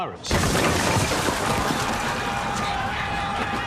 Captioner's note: crashes and bangs; screams